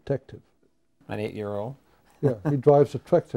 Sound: laughs

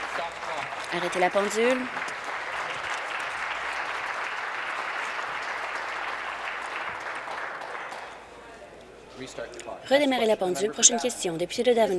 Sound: applause

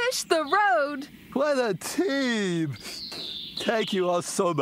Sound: sniffs

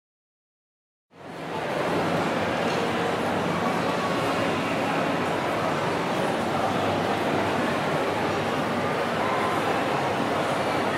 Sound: shopping mall sound

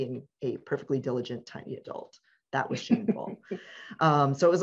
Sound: laughs

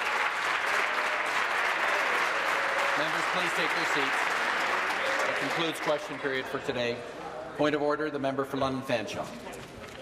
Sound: applause

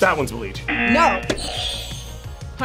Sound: buzzer rings; buzzer

